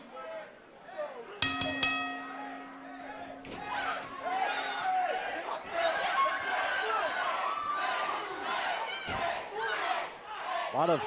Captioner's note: bell ringing